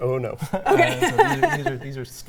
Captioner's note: laughs